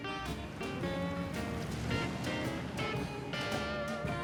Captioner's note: car engine revs